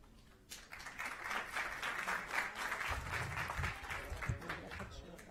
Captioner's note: applause